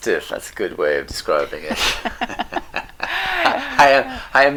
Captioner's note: laughing